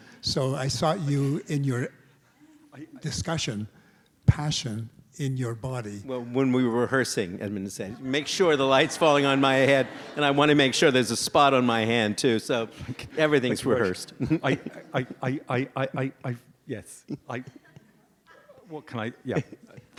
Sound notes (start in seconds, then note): 14.9 stammers